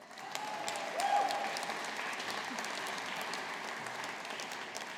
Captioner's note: audience applauding